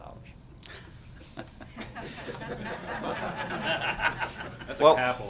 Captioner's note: laughter